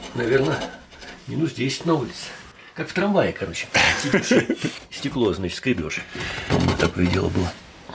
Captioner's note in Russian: смех